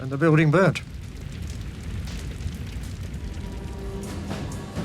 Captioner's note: fire rattling